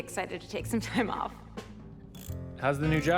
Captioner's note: machine whirs